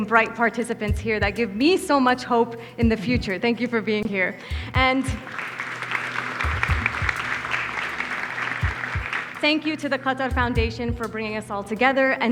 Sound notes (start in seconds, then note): 5.0 audience applauds